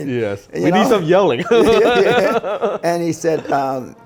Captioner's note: laughing